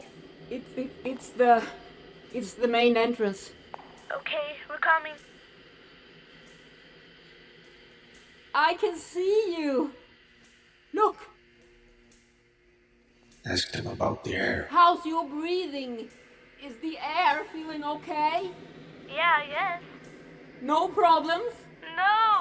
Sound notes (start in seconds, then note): 5.6 lights buzzing; 5.6 suspenseful music